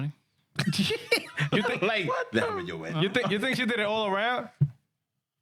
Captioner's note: laughing